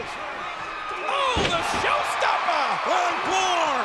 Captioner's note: body thudding